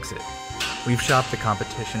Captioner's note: mechanical whirring